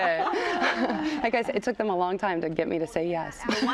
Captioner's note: laughter